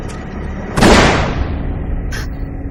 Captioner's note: loud gunshot